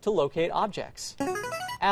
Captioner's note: buzzer